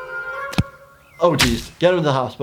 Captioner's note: Gumball thudding